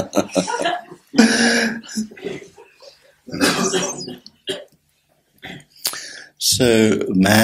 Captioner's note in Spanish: se ríe